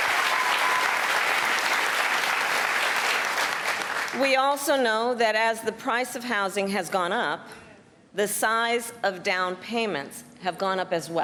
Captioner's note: applause